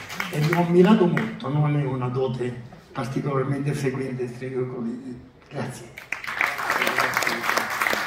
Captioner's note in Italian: Applauso